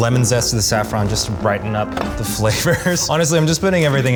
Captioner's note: laughing